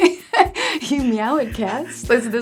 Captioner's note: laugh